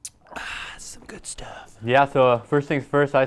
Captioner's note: gasps